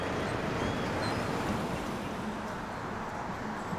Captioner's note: traffic whooshes